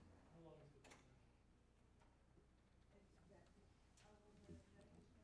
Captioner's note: faint talking in background